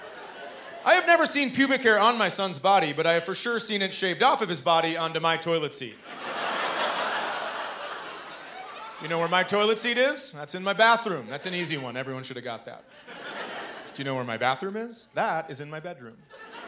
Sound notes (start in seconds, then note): 6.0 laughter